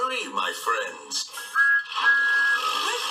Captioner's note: thomas tooting